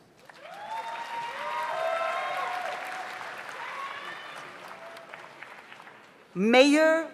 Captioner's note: audience applauds; audience cheers